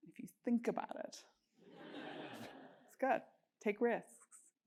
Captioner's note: laugh